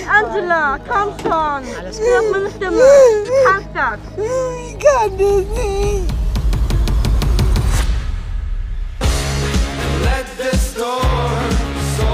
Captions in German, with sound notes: Angela, komm schon. - Alles gut. (Sie weint.) Du schaffst das! - Ich kann das nicht! (Angespannte Musik) (Fröhliche Musik)